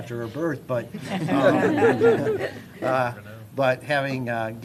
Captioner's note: laughter